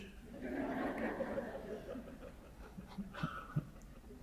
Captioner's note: audience laughing